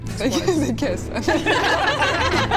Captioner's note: giggles